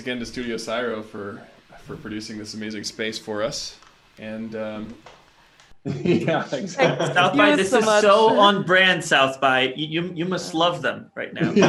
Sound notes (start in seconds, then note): 5.8 laughing; 11.3 laughing